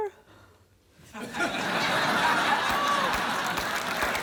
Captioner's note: laughter